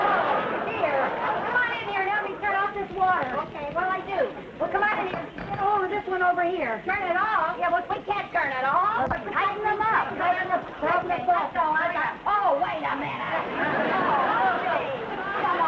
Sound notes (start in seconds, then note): 9.2 Lucy and Viv squabbling; 13.1 audience laughing